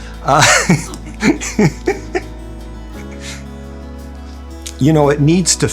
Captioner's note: laughter